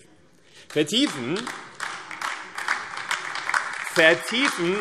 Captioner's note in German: Beifall AfD